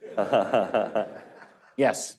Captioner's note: laughter